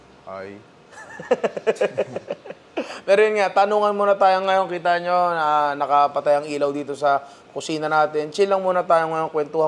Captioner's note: laughs